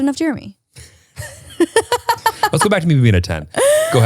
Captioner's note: laughs